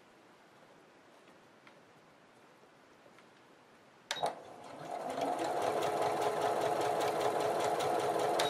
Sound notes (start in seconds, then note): 4.2 sewing machine stitching